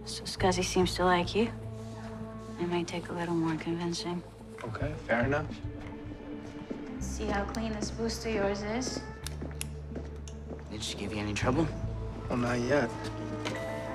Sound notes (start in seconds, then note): 9.6 flashlight clicks